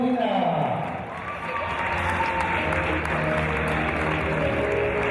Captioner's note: cheers and applause